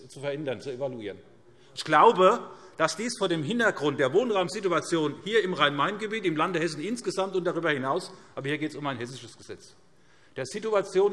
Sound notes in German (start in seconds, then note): none